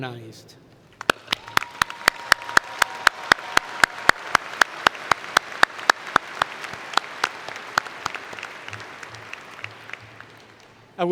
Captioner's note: cheering and Applause